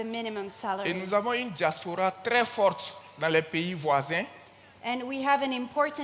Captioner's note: continues in French